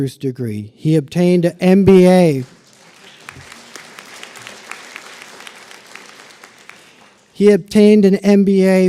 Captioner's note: applause